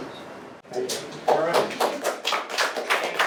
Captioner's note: applause